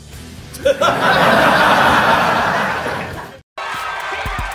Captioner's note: audience laughing